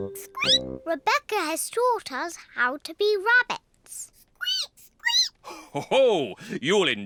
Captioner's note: squeaks; peppa and george squeak; laughs